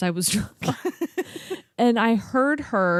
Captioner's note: laugh